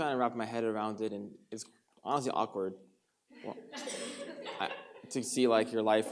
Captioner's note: audience laughs